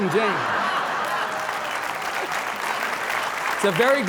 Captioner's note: audience clapping; audience laughing